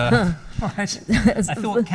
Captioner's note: laughs